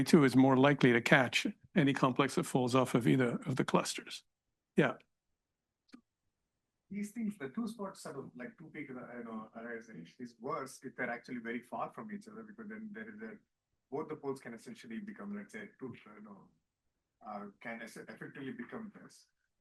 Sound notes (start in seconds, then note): 9.4 speaking faintly; 16.0 speaking faintly